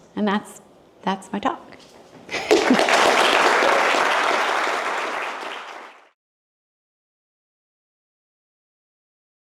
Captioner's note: applause